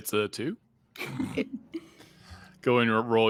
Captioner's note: people chuckling